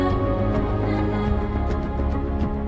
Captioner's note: none